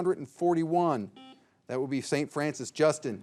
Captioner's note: signal beeps